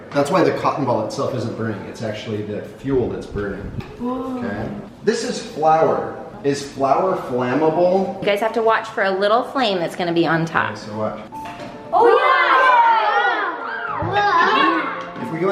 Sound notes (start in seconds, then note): 4.4 kids wowing; 11.9 kids wowing and laughing